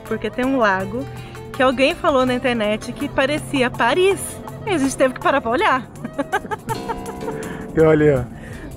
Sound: laughter

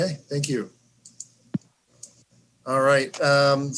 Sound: mouse clicks

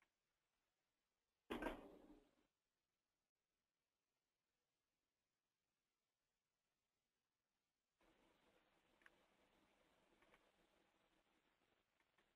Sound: pause

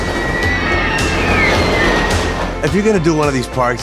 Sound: screams

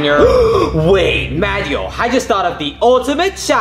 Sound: gasps

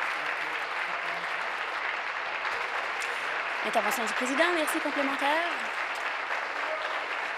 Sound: applause

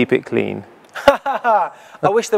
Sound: laughing

